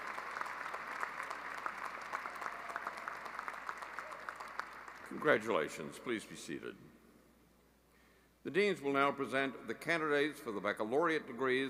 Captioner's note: applause